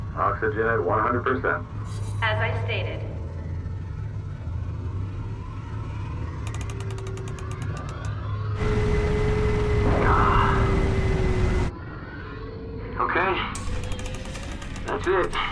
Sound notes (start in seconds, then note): 8.6 whirring powers down